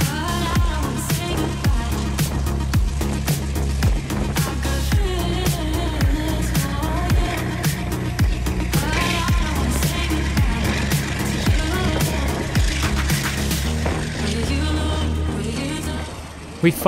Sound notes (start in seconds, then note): 3.0 footsteps crunching; 3.0 wind blowing